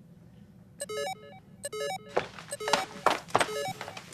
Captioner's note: Aethernet bleeping